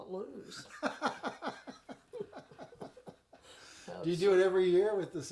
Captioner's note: laughing